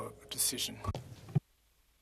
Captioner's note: speaking in French